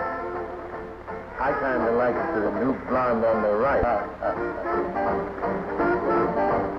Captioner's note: chuckling